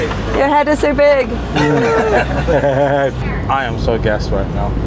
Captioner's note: laughing